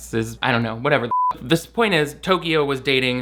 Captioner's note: beep